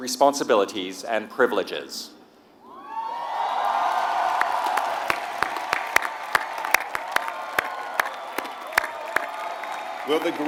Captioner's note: applause